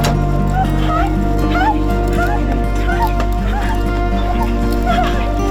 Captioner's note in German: Hund wimmert; aufmunternde Musik